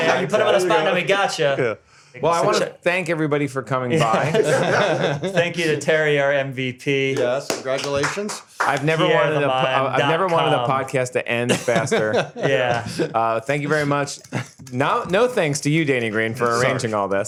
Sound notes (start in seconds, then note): 4.0 laughter